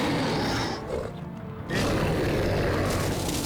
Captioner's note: growling